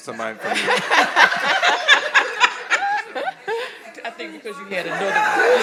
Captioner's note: all laughing